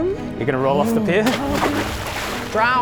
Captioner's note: splash